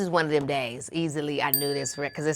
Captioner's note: bell dings